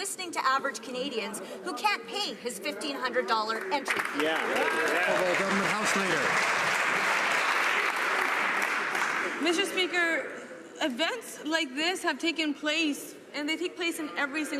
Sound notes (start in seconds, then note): 8.4 some Applause